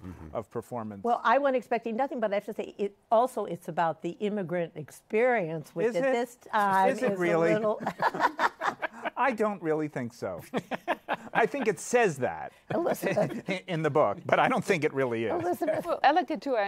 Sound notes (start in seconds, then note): 7.6 laughter